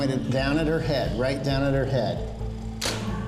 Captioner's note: camera clicks